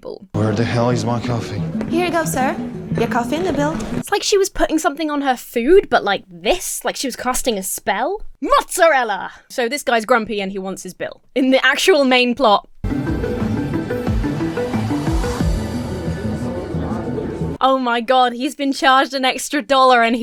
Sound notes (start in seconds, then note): 12.8 tense music; 16.0 patrons chattering